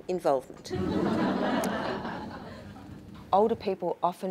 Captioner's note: audience laughing